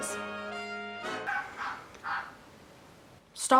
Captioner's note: bird makes dog noises in the background